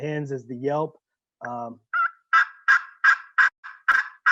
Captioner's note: turkey call making yelp sounds